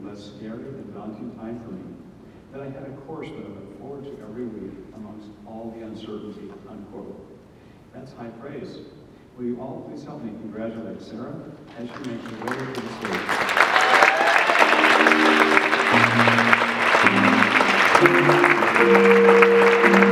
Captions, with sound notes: less scared and daunting time for me. That I had a course to look forward to every week, amongst all the uncertainty." That's high praise. Will you all please help congratulate Sarah? (audience clapping) (jazz music)